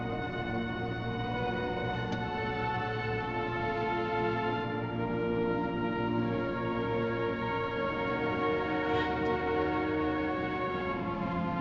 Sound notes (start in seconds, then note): none